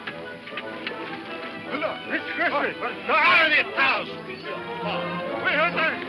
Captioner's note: people speaking in foreign language